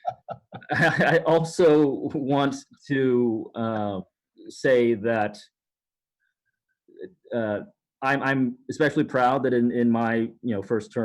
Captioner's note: laughter